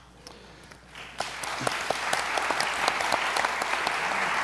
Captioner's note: audience applauds